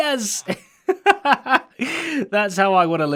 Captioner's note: laughs